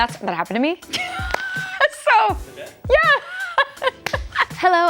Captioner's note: laughing